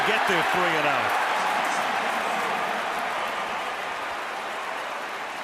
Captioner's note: cheering